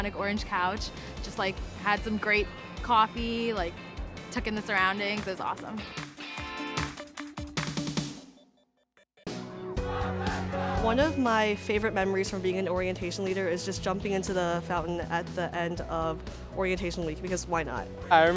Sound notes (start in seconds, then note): 5.7 music playing; 9.8 cheering